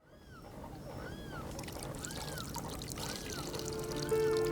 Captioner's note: water flowing